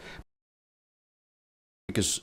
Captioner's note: silence